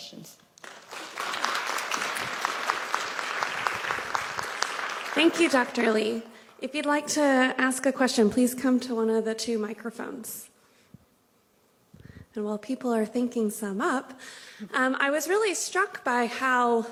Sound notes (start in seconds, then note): 3.0 applause